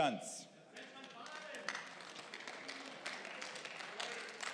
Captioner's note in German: Beifall